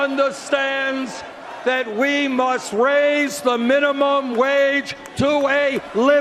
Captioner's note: cheers and Applause